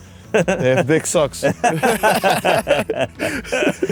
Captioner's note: laughs